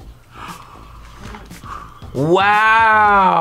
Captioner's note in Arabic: كلاهما يلهث